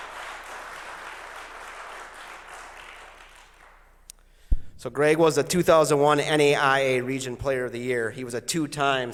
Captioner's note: applause